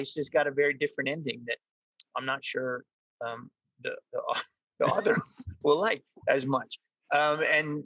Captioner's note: laughs